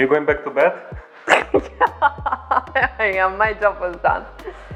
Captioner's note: laughing